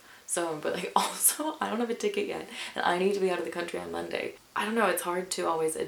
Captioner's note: chuckles